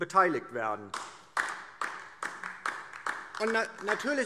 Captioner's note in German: Beifall DIE LINKE